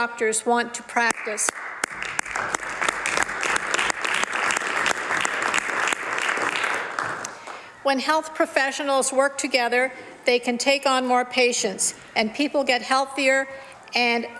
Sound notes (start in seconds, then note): 8.2 some Applause